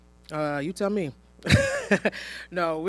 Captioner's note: laughs